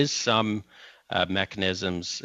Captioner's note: speaking French